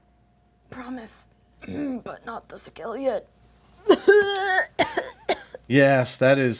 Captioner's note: coughs loudly